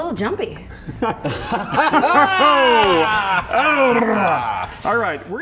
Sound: laughter

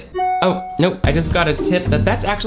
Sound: notification dings

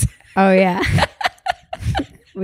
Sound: both laugh

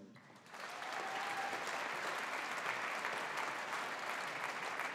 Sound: audience applauding

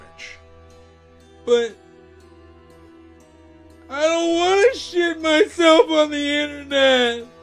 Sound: crying

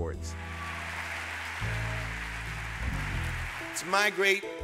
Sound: audience applauding

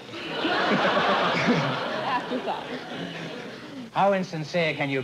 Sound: laughter

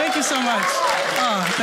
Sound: audience cheers

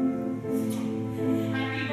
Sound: loud forehead kiss

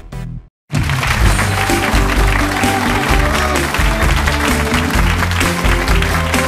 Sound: audience applauding; bright music

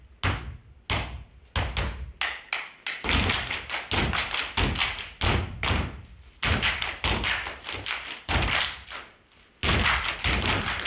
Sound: applause

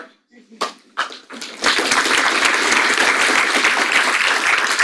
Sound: audience applauds

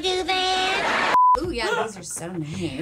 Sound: people laughing; beep

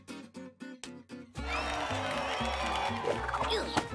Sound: cheering

